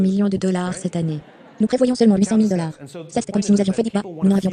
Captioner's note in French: Riant